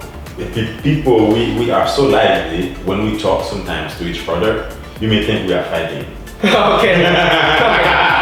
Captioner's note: insert hearty laugh